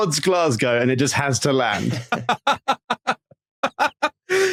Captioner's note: cackles